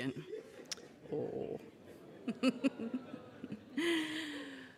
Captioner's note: laughs